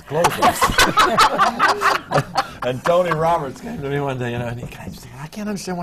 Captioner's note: laughter from the panel